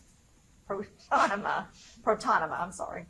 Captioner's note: laughs